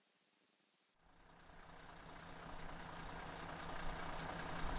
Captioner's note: engine hums